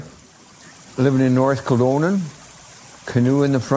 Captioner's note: creek sound